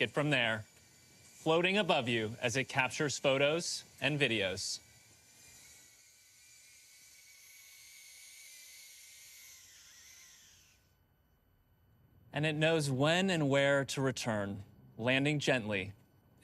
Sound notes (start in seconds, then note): 3.2 Pixy whirring